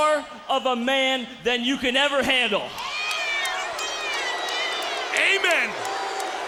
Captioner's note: crowd cheering